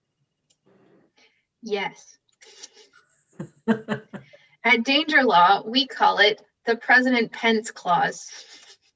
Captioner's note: laughter